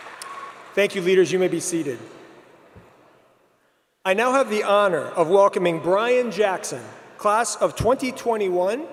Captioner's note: applause